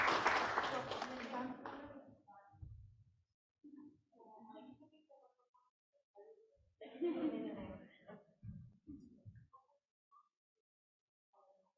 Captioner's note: applause